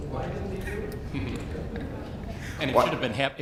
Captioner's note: laughs